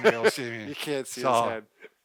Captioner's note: laughs